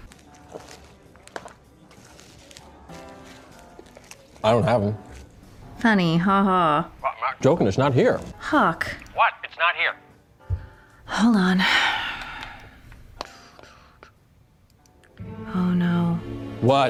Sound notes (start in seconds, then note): 11.6 sighs